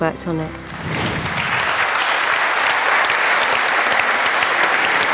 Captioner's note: audience clapping